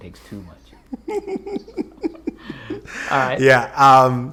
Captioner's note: laughing